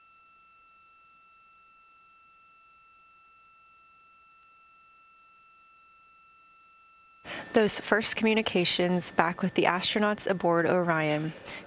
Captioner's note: silence